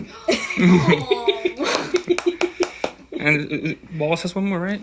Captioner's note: laughing